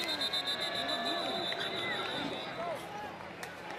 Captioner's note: whistle